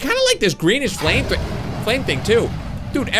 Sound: dragon roars

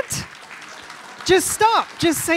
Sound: audience applauding

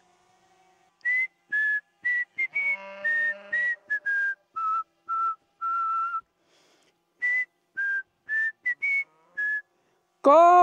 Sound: whistles

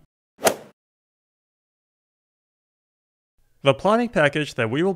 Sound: golf swing sound effect

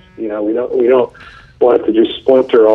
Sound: vibrating phone

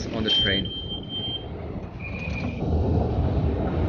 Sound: device beeps

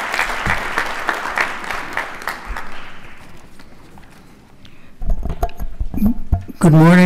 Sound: applause

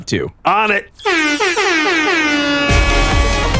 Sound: air horn

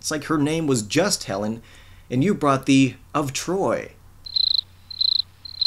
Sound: crickets

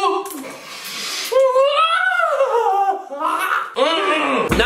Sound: inarticulate crying sounds

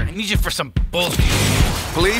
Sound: blasting sound

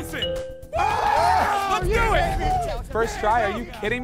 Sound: cheers

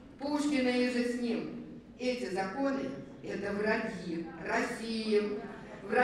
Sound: speaking russian

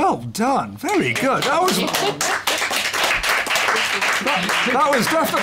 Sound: applause

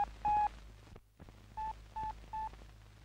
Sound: beep, Beep, Beep

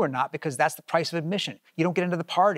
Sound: none

